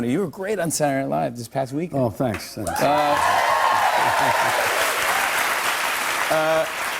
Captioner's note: cheers and applause